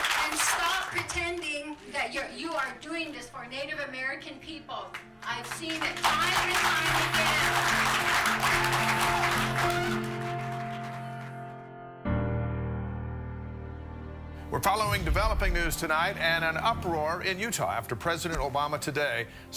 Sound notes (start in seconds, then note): 9.1 audience applauds